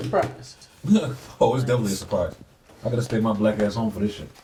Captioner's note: scoffs